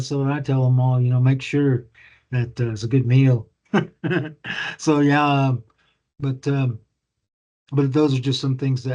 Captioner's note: laughs